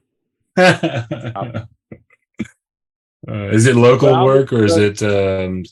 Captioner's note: laughs